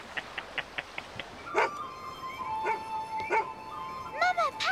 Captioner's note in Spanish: BRUNO ladrando